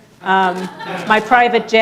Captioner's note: audience laughing